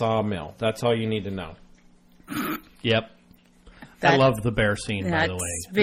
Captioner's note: laughs